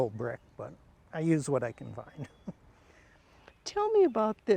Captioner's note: chuckles